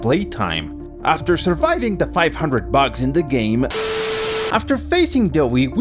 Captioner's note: static